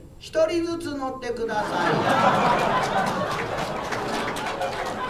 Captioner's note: audience laughter